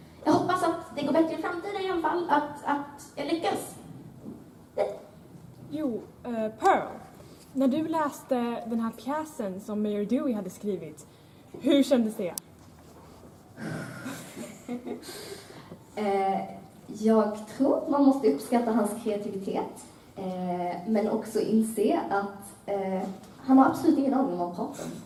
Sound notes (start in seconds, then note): 13.6 sigh